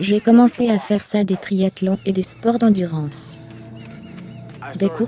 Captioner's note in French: respire fortement